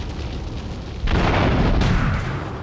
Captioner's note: gun firing